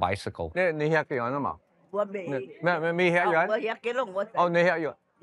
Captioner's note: speaking Cantonese